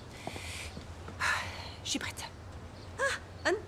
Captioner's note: sighs